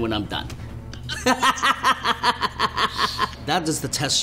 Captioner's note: laughter